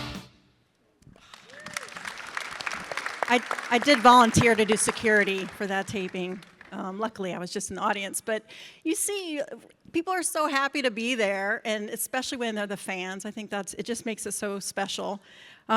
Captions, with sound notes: (audience claps) - I did volunteer to do security for that taping. Luckily, I was just in the audience. But you see people are so happy to be there, and especially when they're the fans, I think it just makes it so special.